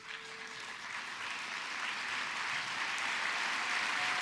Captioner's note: applause